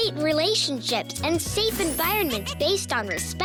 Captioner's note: tinkling